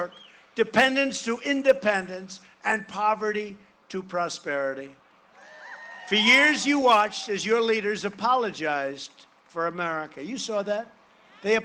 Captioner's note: cheering and applause